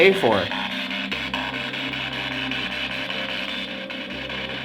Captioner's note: spirit Box crackles